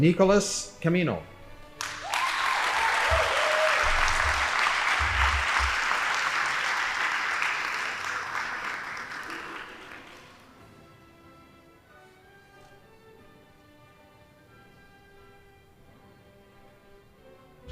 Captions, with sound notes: Nicholas Camino. (audience applauding) (band playing)